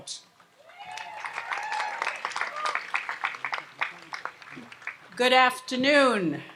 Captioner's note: audience applauds and cheers